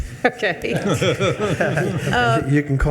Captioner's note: attendees laughing